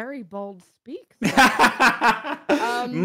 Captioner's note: laughs